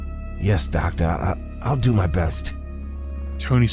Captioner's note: none